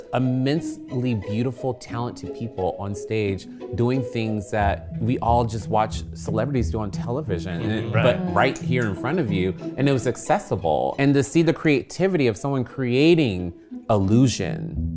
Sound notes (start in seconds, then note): none